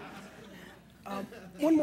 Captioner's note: laughter